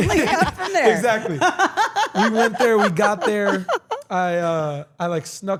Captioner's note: laugh